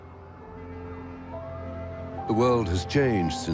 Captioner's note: cars honking